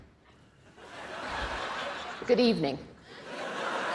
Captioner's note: laughter